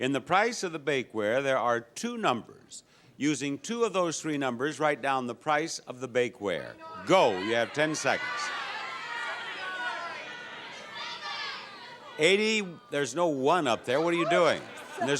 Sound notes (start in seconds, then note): 8.6 audience members shout prices